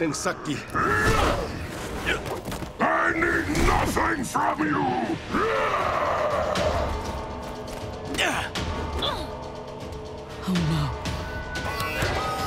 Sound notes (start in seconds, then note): 0.2 grunting; 5.3 screaming; 7.8 grunting